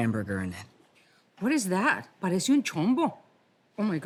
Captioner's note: in Spanish